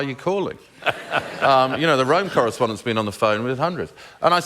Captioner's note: laughter